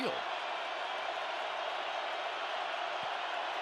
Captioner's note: crowd cheering